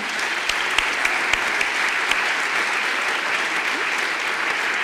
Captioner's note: audience applause